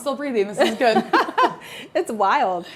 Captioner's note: Brandi laughs